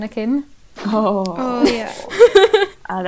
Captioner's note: chorus of ‘Ohhh.’